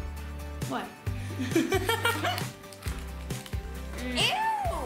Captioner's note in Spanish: risas